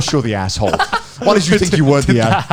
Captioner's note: laughing